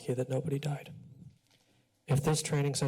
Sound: pause

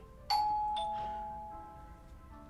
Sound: doorbell rings

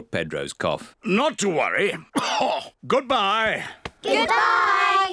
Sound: coughs

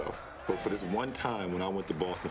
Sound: cheers

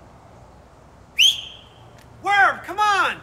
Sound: sharp whistle

